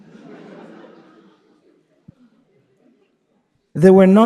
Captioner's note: participants laughing